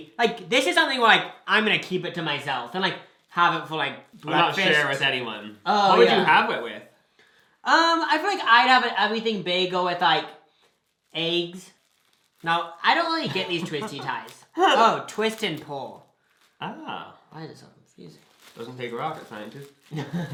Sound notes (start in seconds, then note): 13.2 laughs